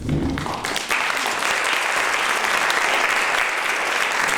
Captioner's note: applause